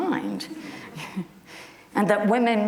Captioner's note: chuckles